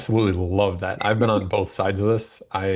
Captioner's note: laughs